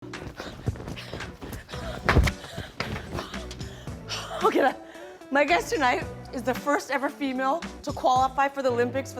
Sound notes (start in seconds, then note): 0.2 panting